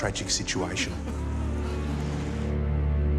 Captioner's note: men wailing; ominous music